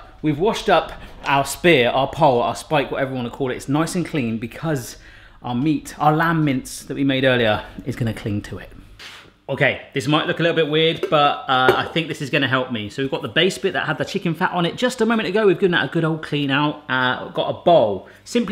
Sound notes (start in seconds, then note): none